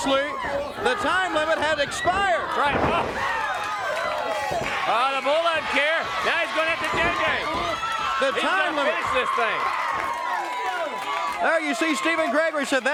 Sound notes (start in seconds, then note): 0.0 crowd chatter; 7.5 crowd chatter